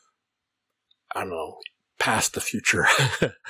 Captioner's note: chuckles